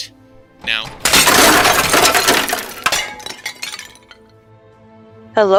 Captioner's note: crashing, clattering